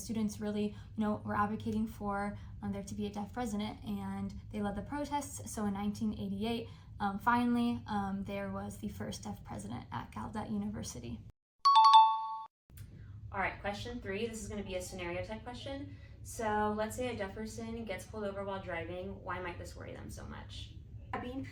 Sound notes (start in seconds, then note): 11.6 ding sound